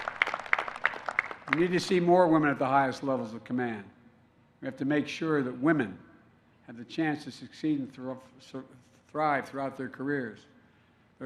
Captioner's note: applause